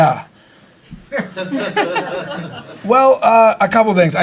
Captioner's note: audience laughing